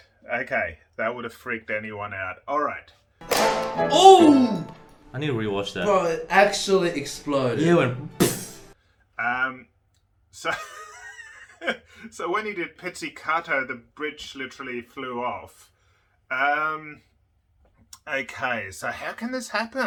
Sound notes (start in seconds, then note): 3.2 violin breaking sound; 10.5 laughing